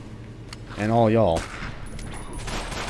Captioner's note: gunfire